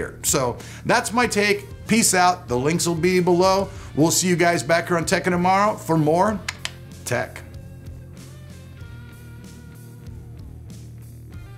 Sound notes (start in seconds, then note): 6.5 tongue clicking; 8.2 upbeat music